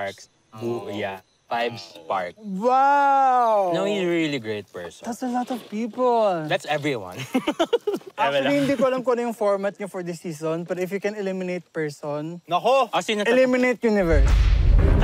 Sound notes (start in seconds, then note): 7.2 laughs